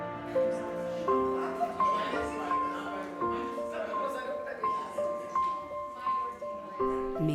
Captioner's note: indistinct chatter